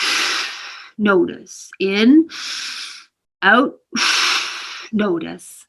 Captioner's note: inhales; exhales